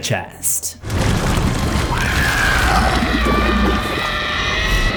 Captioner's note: La Llorona screams as she decomposes